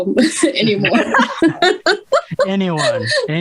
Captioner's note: risas